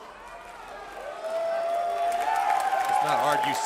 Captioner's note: crowd cheering